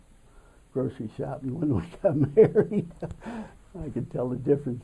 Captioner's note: laughs